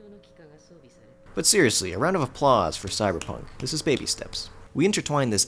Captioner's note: clapping